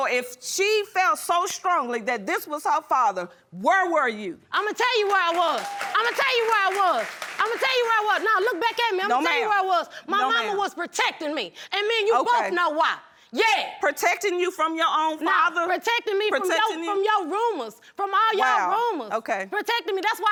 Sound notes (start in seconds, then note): 5.0 audience applauding